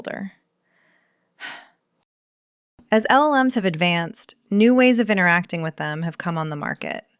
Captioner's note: sighs